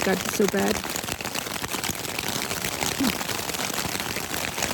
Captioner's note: continuous sound of rain